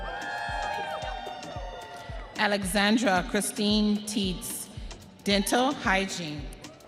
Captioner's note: audience cheering